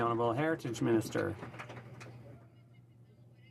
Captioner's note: some Applause